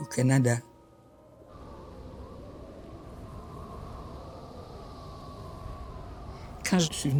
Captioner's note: wind howling